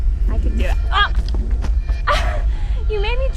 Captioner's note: knife slices; grunts